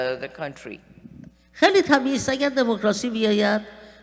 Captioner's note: speaking persian